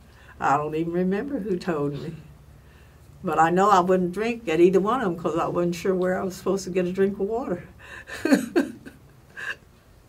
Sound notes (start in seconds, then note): 8.8 laugh